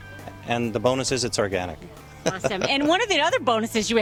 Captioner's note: laughs